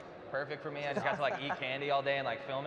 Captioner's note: laughter